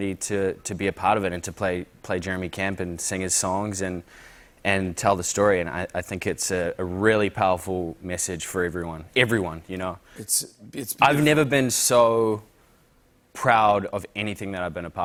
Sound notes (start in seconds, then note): none